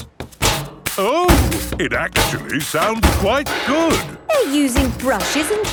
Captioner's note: rhythmic clanging